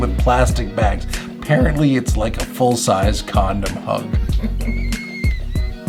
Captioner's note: laughs